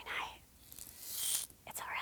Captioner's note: hula hoop rattles